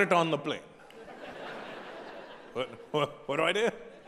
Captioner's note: audience laughing